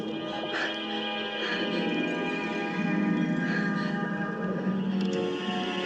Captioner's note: underwater noise; heavy breathing; click; machine whirring